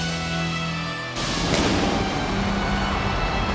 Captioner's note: lightning roars; audience cheers